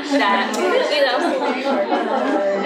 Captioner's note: laughter